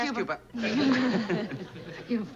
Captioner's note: both chuckle